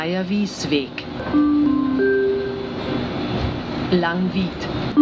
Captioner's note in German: Gong